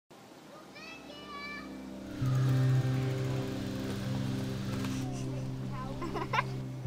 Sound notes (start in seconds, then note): 0.4 children's voices; 4.9 kid laughing